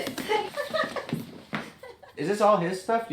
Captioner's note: laughing